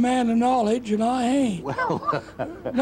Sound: man laughing

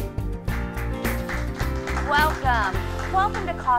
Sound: applause

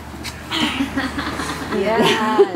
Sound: laughs

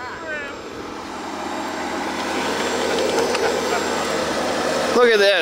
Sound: engine runs

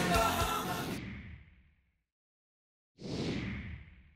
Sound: air whooshes

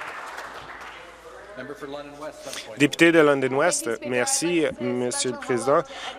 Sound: applause

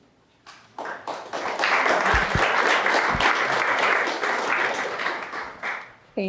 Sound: applause

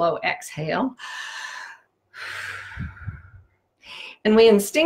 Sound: inhale and exhale

